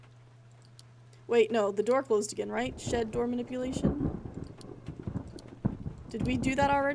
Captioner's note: thunder Rumbling